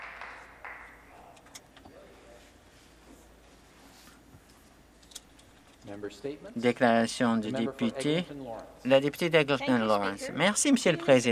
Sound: some Applause

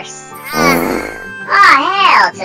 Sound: sighs; Little Jesse Farts

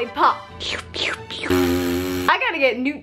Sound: slurping, slurping

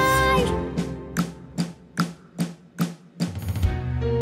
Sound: clock ticking

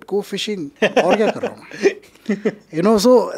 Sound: laughing

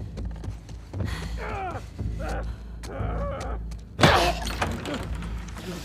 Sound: cries of pain

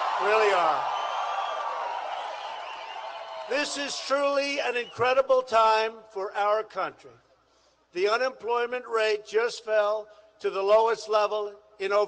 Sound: applause

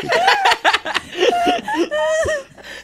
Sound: laughing

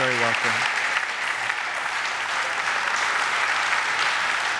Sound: audience applaud

